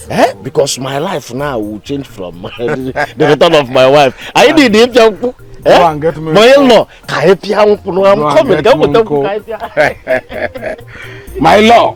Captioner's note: laughter